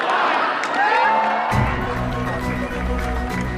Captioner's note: crowd cheering